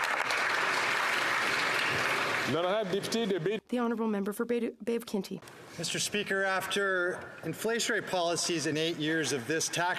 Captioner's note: applause